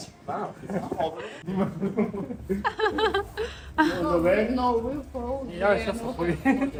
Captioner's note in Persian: خنده